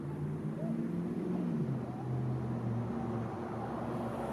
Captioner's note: car engines rumbling